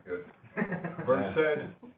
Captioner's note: laughter